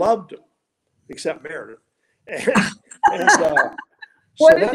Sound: laughing

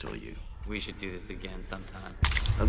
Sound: glass smashes

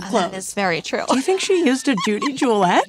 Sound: laughs

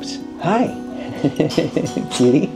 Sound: laughs

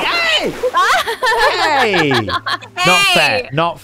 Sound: laughing

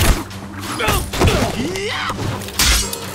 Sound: grunting

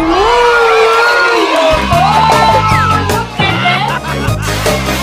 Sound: people cheering

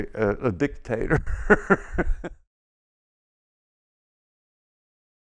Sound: laughs

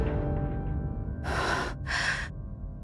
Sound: exhales deeply

